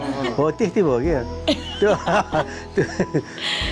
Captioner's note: both laughing